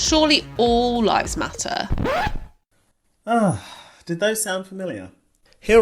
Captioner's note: record scratch